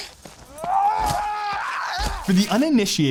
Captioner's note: groans